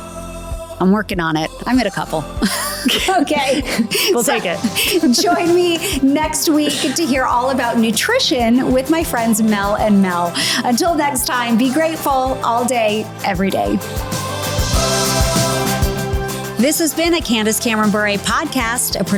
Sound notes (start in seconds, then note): 2.4 laughs